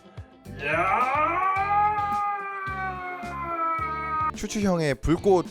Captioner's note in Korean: 기합 넣는